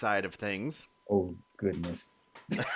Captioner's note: both laughing